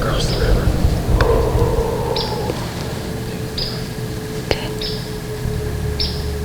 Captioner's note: exhaling, breathing hard